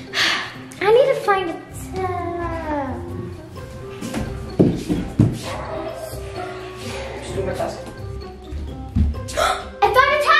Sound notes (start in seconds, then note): 0.2 child gasping; 5.1 feet thudding; 9.3 child gasping